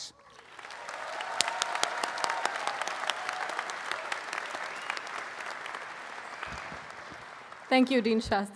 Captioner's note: audience applauding